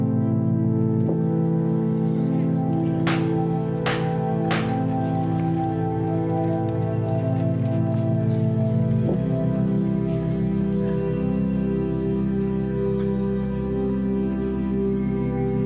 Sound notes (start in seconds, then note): 3.0 court gavel pounding; 9.1 pensive music continues